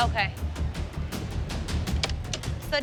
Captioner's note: click